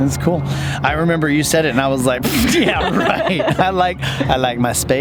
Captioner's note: both laughing